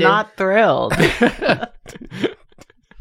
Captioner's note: chuckling